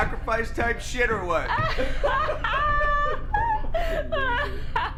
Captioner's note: laughing; soft music